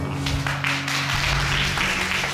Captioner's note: applause